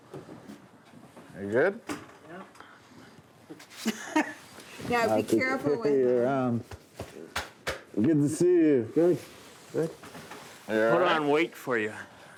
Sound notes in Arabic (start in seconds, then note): 3.8 يضحك